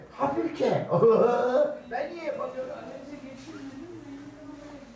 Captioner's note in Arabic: none